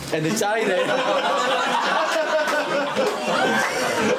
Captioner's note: laughing